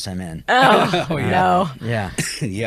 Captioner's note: laughs